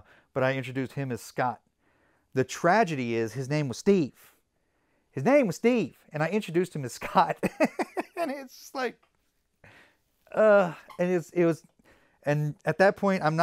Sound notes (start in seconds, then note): 7.4 laughs